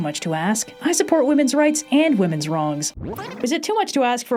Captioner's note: static